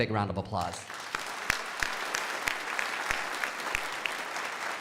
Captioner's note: crowd applauding